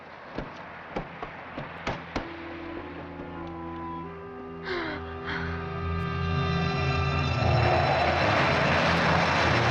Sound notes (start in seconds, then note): 2.2 dramatic orchestral music; 4.6 sobbing